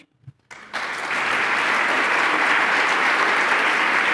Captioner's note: applause